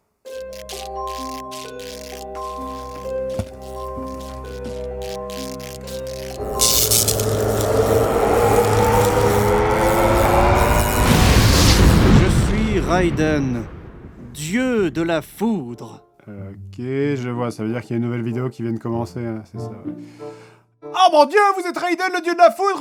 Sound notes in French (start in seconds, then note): 6.1 les bruits électriques s'intensifient